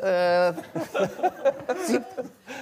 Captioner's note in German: Lachen